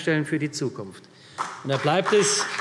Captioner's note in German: Beifall CDU und vereinzelt BÜNDNIS 90/DIE GRÜNEN